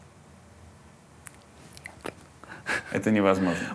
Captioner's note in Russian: шёпотом